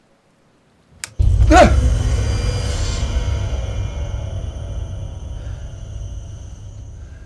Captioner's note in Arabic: موسيقى مخيفة; لهاثة